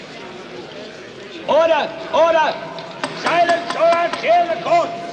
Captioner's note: gavel knocking